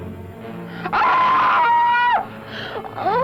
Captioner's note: scream